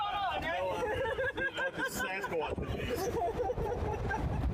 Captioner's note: laughing; laughter